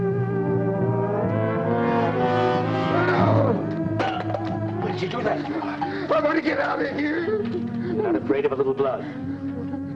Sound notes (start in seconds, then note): 2.8 groaning